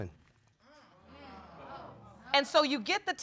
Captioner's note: audience exclaims